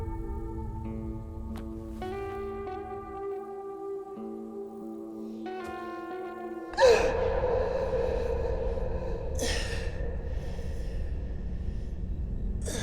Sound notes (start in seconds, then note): 0.1 crickets chirping; 6.7 gasping; 9.1 heavy breathing